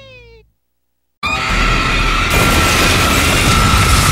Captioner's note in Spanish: Grito satanico